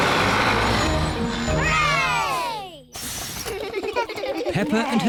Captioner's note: all cheer